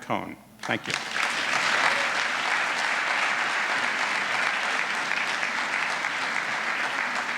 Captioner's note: applause